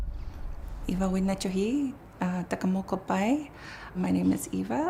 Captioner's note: non-english speech